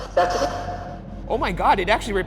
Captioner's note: voice shouting